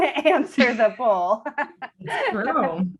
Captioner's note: laughs